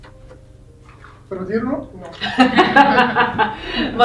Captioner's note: laughs